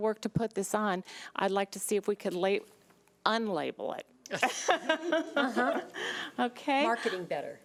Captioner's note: laughs